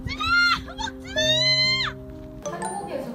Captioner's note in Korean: 절규